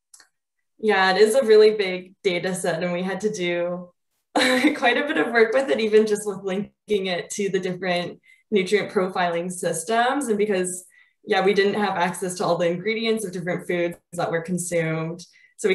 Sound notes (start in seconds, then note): 4.4 chuckles